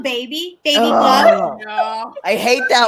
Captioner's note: groans exasperatedly